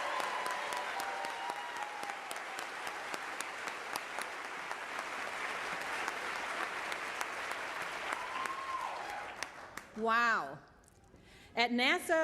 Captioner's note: applause